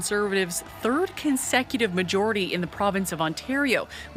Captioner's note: cheers and applause